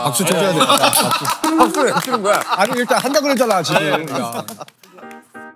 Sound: applause

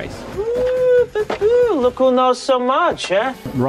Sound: mocking noises

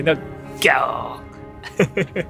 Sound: lion roar in Japanese

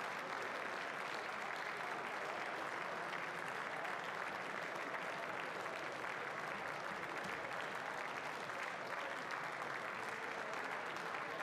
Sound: applause

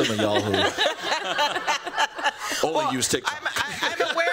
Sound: laughter

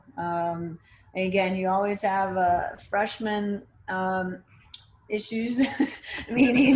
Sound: chuckles

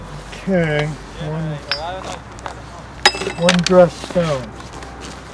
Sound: clinking of tools set on stone

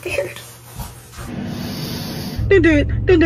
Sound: inhales

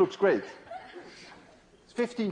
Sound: laughter

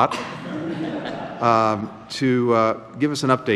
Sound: laughter

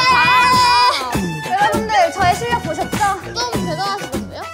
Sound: confident

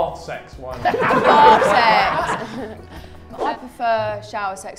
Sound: Sidemen laugh

